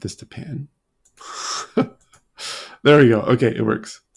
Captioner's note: chuckling